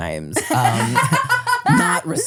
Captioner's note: laughs